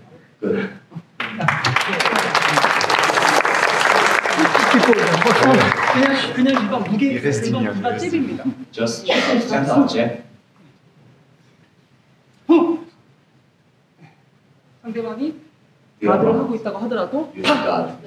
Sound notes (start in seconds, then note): 0.2 laughs; 6.5 applause